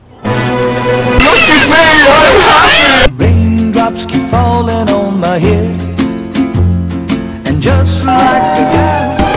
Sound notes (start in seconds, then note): 1.1 very loud & distorted; 8.1 ding dong